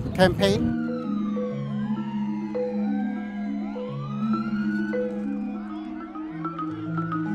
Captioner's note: sirens